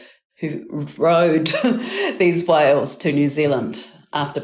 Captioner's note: chuckling